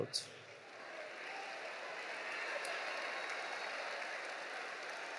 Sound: audience applauding

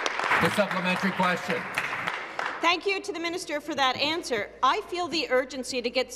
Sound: applause

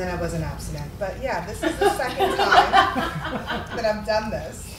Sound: laughing

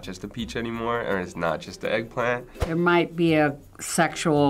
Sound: none

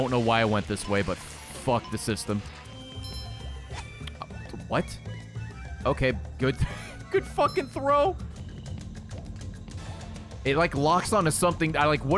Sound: laughs

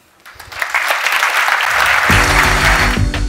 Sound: applause

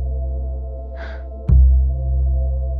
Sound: sighs

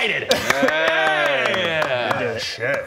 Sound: grateful applause

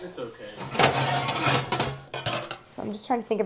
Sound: metal loudly clattering

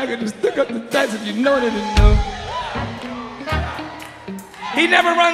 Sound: audience cheering

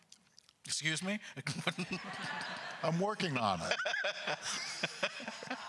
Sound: crowd laughter; laughs

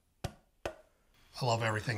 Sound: hand slapping

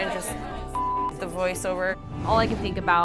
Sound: beep

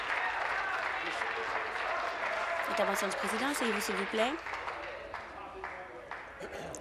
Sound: applause

